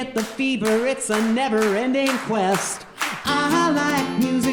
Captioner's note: audience clapping